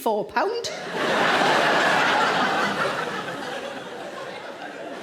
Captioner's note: audience laughing